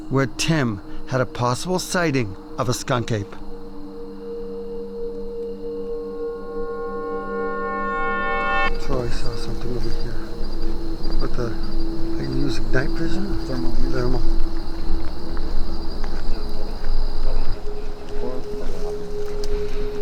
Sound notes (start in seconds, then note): 4.9 dramatic music; 15.5 bug noise; 18.6 dramatic music